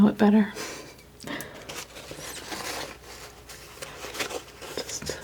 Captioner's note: scratching